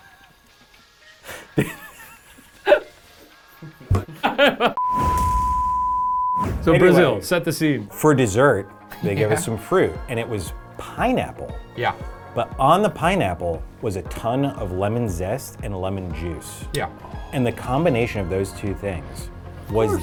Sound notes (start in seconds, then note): 0.3 everyone laughing; 4.8 electronic beep; 4.8 air swooshing